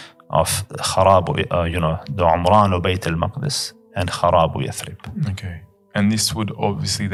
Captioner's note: Arabic